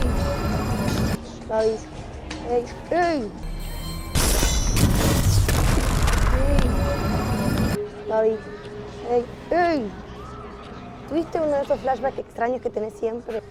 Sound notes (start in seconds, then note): none